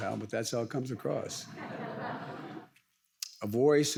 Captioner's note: audience laughs